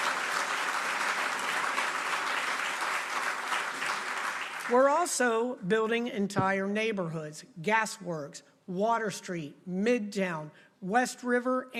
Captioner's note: applause